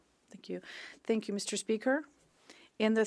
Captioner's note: speaking French